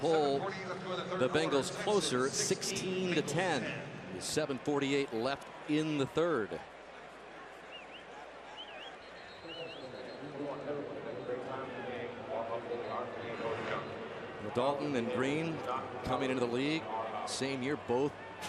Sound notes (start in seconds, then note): 9.9 pa announcement